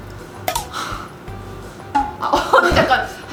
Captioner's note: deep breath